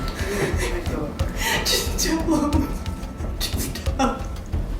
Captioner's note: crying